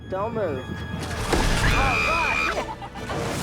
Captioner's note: water splashes; screams